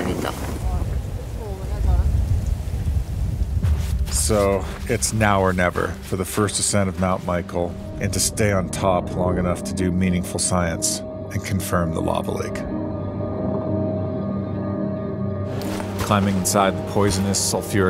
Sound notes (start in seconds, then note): 2.1 wind whirring; 4.5 light music